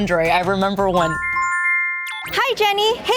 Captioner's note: ringing